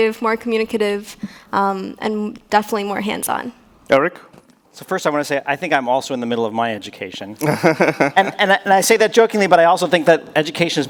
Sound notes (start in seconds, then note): 7.4 laughs